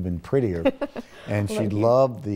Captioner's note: laughing